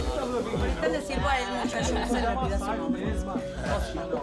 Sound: chatter

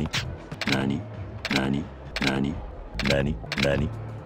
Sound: seductive Voice

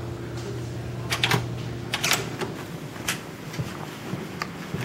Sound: door opening

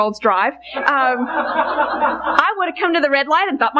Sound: congregation laughing

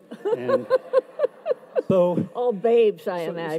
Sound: audience laughs

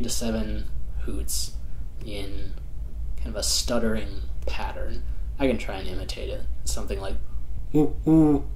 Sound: hoots

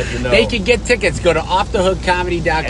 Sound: laughs

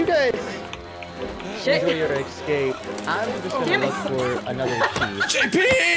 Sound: everyone talking

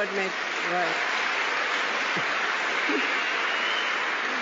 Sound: applause

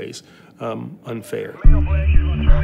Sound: police radio chatter

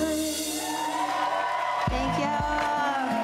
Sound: crowd cheers

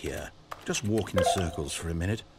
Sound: notification beep

